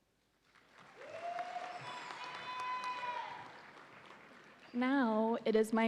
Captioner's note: audience applauds and cheers